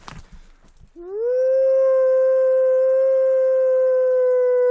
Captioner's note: narrator howling